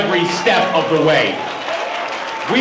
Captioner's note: cheering